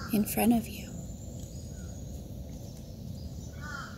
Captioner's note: nature Sounds